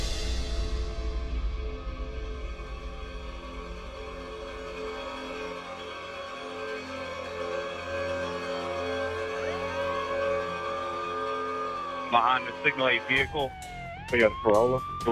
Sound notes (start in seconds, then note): 0.2 foreboding music playing; 9.8 sirens wailing